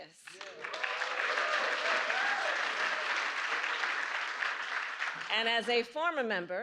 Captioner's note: applause